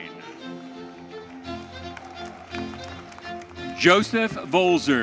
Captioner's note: audience applauding